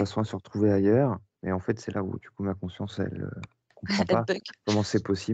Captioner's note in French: rire